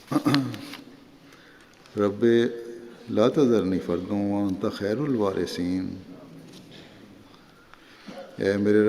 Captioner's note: Arabic